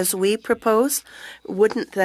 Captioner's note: speaking French